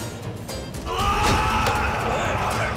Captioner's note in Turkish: Bağırıyor